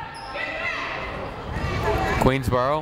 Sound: people shouting in the crowd

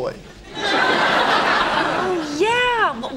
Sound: background laughter

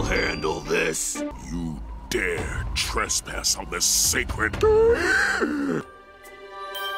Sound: gasp

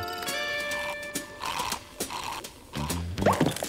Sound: slurping

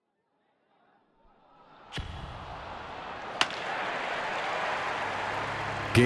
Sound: baseball crowd buzzes

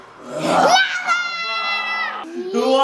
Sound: shouting

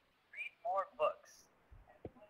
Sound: voiceover

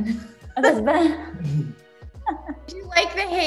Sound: laughs

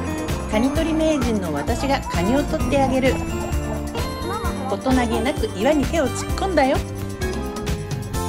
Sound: laughs

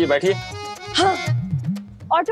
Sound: sighing

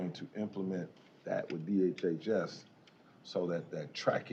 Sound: none

